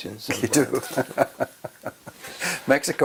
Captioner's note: laugh